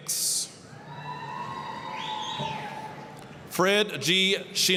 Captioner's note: applause, cheering